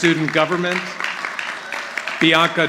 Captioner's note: audience applauding